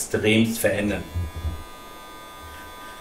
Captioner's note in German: Leises Surren